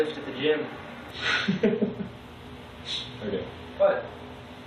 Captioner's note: laughs